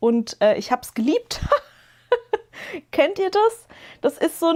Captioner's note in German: gelächter